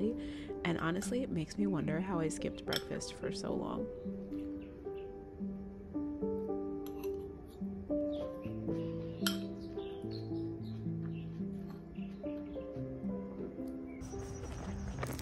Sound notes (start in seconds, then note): 4.2 birds chirping; 10.8 taking steps